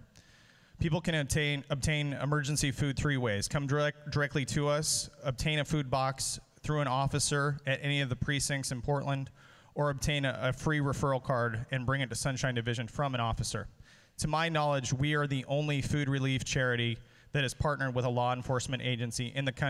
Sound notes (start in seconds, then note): none